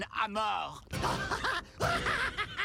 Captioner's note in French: rire